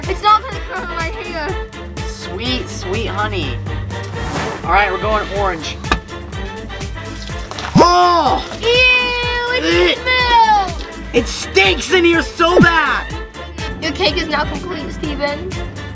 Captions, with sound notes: - It's all gonna go in my hair. - Sweet, sweet honey. All right, we're going orange. (button clacking) Ugh! (milk splashing) - Ew, it's milk! - It stinks in here so bad! - Your cake is now complete, Steven.